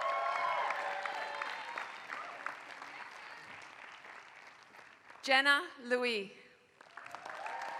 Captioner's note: applause